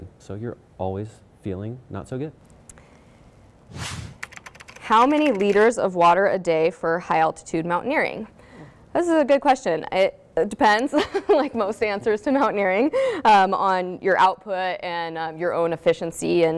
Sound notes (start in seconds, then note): 3.6 air whooshing; 4.2 keyboard clicking; 10.8 laughs